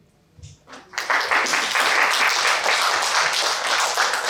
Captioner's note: applause